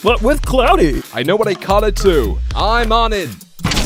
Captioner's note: thick accent